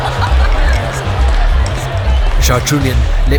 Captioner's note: party sounds intensify